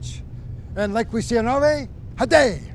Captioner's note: speaking in a foreign language